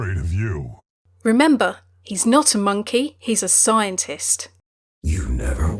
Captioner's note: voiceover